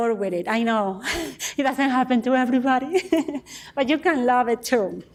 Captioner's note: laughs